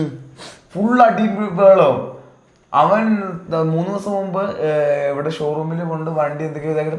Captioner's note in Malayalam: തൊണ്ട ശരിയാക്കുന്നു; ചീറ്റുന്നു